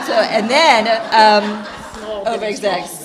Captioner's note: laughter